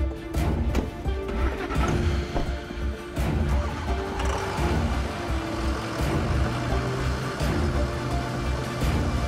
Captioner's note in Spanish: Ruido de los vehículos